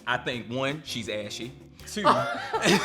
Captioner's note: laughs